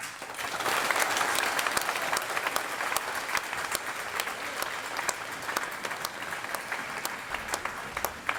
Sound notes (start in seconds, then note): 0.0 applause